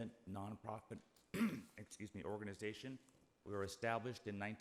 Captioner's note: coughs